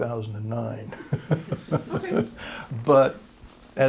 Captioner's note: laughter